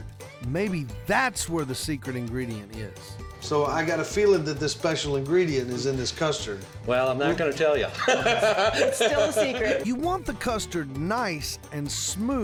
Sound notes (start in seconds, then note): 7.8 laughing